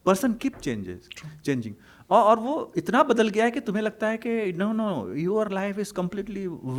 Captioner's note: hindi